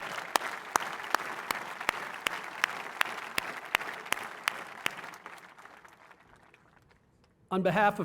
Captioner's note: applause